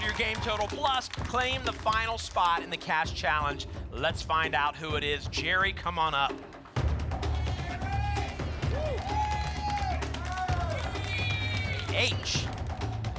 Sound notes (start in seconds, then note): 7.3 cheering; 10.3 audience shouting letters